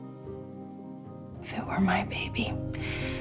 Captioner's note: voiceover